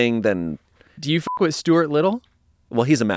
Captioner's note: beep